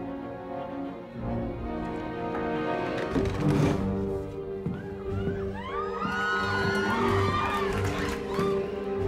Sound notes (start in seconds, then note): 5.2 cheering